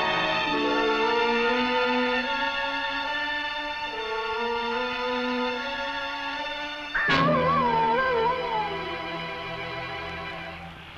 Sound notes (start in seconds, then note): 7.0 animal howling